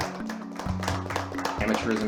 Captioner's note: clapping